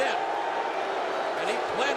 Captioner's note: audience booing